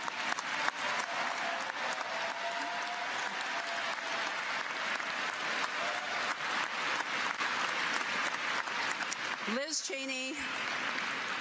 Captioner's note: applause